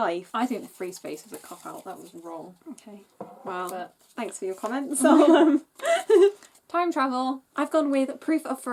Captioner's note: laughs